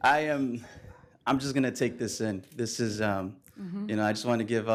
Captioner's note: laughing